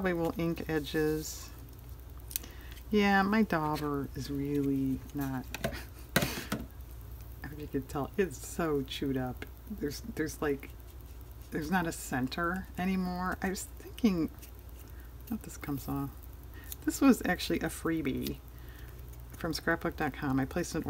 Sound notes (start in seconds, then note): 5.7 laughs